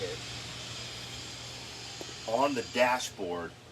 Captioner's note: machine whirring